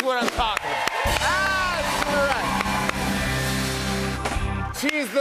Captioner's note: cheers and applause